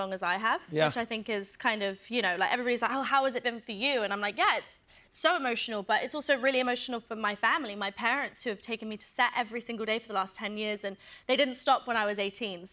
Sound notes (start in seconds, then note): none